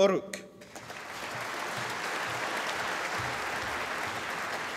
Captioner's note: applause